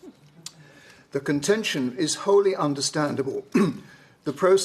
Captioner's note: clears throat